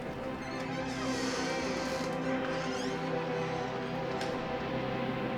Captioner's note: soft music; door squeaks